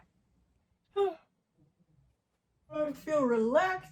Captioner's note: yawns